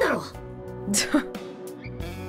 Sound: chuckles

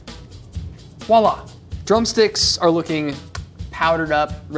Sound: smacks lips

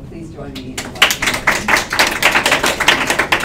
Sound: applause

